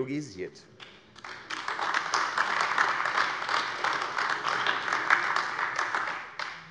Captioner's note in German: Beifall AfD